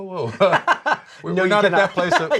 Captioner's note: both laugh